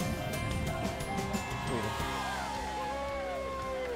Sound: cheering

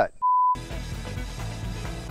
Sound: beep; upbeat music

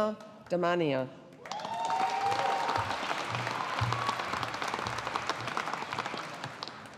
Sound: audience applauding

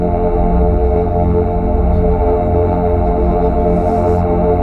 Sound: ragged breathing

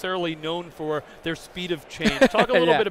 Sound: laughing

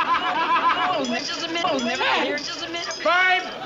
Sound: people talking

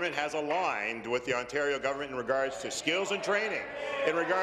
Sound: applause

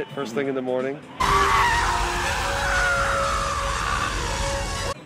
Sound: man Screaming

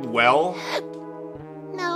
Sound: inhale

